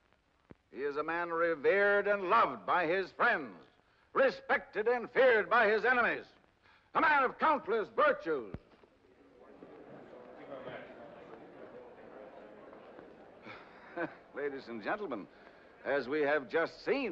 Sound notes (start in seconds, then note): 8.8 crowd murmurs; 12.8 chuckles nervously